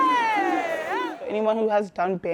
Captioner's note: band chanting